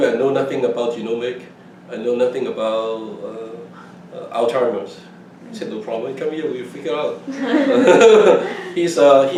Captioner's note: laughs